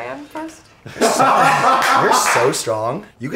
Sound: all laugh

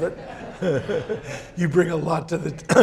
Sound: laughs; audience laugh

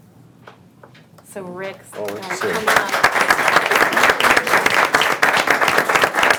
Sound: audience applauding

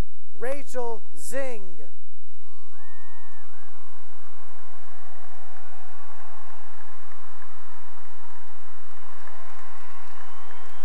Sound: cheering and applause

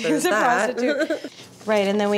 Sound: laughs

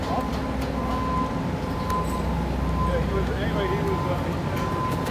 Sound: noise from work site

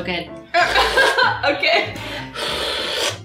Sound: laughs; slurps

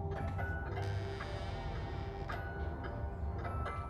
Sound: door creaking

